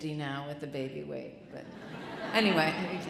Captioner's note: audience chuckling